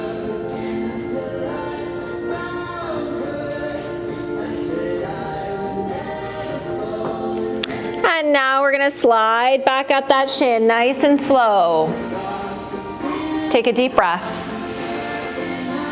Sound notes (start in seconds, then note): 13.0 breath